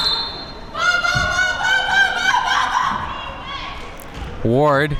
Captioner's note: player shouting